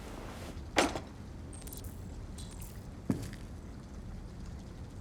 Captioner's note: none